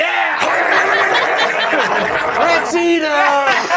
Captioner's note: snarling and chewing